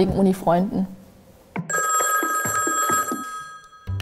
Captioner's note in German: Telefonklingeln